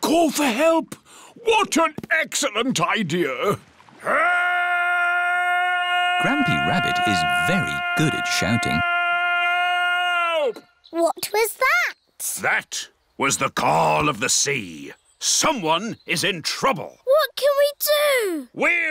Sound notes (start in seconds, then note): 4.4 shouting